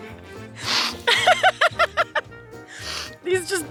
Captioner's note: laughs